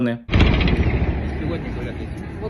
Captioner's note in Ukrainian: вибух